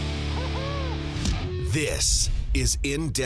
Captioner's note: energetic rock music; voiceover